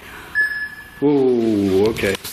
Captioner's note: beeping